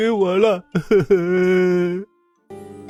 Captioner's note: chuckles